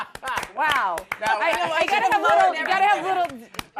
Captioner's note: laughter